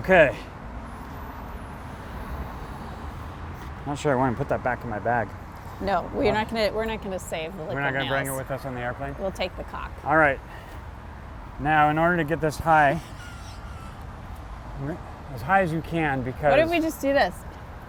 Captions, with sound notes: Okay. Not sure I want to put that back in my bag. No, we're not gonna, we're not gonna save the liquid nails. We're not gonna bring her with us in the airplane? We'll take the caulk gun. Alright. Now, in order to get this high, - [laughs] We're not- as high as you can because Why don't we just do this?